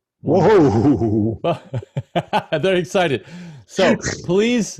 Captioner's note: laughs